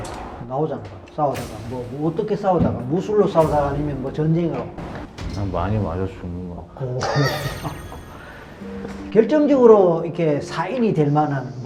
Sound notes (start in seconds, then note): 6.9 haha!